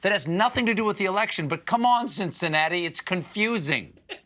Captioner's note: laughter